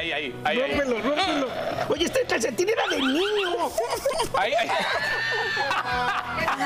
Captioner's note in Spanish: risas